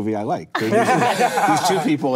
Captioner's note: laughing